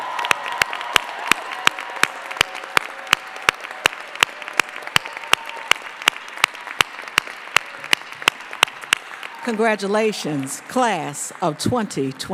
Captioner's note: applause